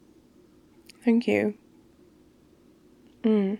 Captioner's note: mouth full